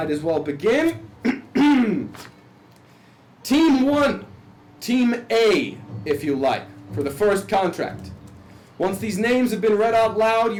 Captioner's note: clears throat